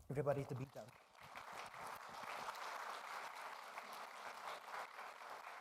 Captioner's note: all applauding